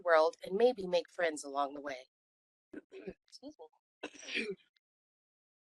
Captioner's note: clearing throat